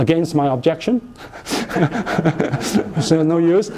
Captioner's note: laughter